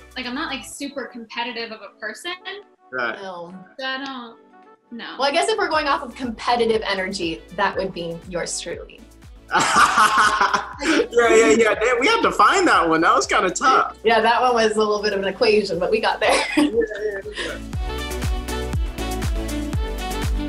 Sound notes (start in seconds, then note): 9.5 Quincy laughing; 17.6 upbeat music